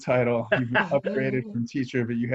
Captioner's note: laughing